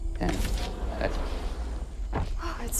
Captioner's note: door sliding